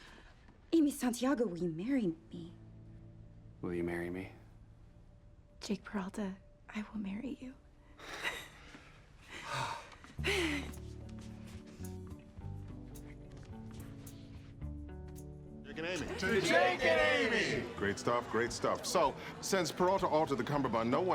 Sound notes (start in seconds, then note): 8.0 gentle music; 9.3 Jake sighs in relief